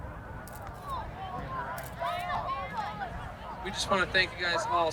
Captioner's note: camera shutter clicking